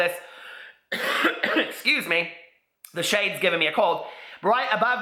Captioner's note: coughs